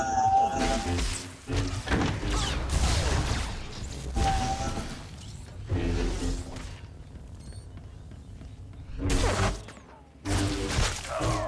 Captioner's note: gunshots